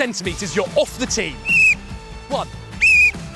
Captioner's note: whistle